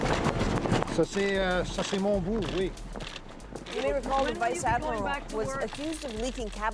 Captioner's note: speaking French